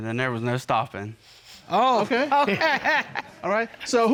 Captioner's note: chuckles